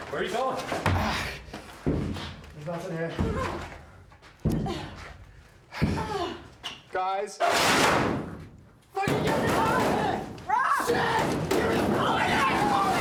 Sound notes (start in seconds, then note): 3.7 Isabel grunting; 8.2 door closing; 12.1 woman screaming